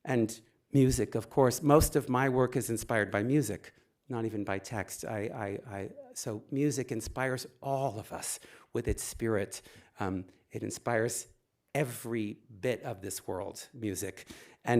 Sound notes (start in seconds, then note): none